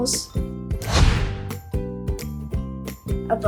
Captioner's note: screen whooshes